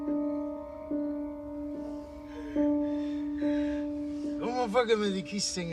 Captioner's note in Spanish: Sollozos